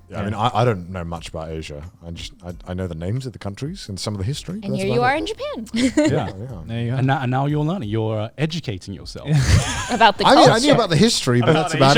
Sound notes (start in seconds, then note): 4.6 laughs; 9.3 laughs; 11.4 all laughing